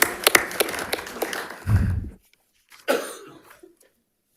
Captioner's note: audience applauds